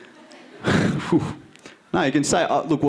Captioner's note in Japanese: ため息